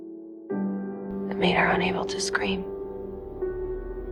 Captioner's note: voiceover